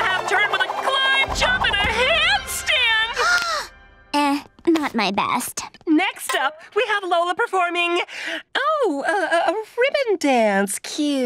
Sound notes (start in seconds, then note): 2.9 gasping